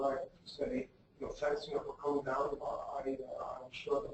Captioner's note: speaks faintly